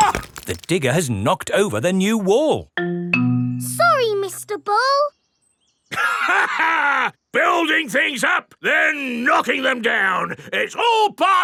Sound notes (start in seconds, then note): 6.0 laughs